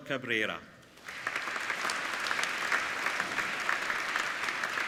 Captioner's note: applauding